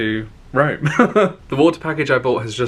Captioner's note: laughing